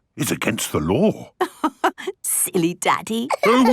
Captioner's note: laughing